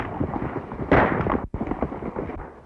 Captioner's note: gunshot